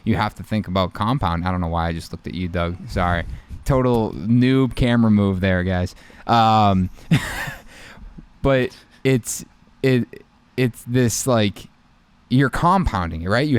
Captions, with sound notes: you have to think about compound. I don't know why I just looked at you Doug, sorry. Total new camera move there guys. (chuckles softly) But it's this like you're compounding, right.